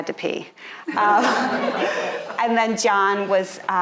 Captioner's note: audience laughing